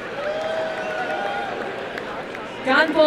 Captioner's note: applause and cheering